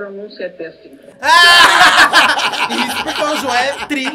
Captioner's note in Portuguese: risos